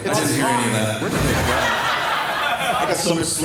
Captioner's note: crowd erupts in laughter, belittling hearing ability